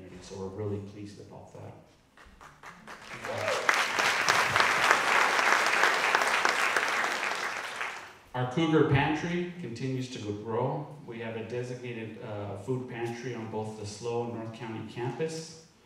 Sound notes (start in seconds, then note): 2.1 audience clapping